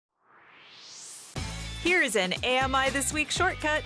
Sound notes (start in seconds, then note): 0.1 swoosh